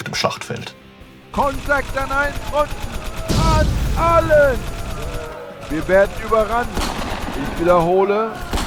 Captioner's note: battle sounds, radio